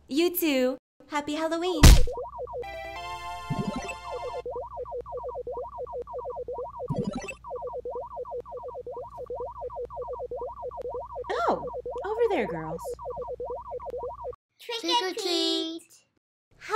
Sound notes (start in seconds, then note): 2.2 video game beeps